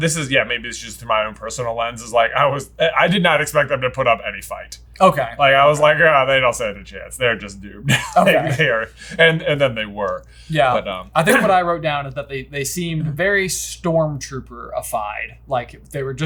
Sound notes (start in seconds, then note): 8.3 voice muffling